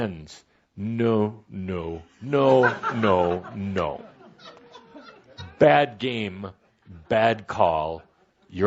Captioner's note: laughter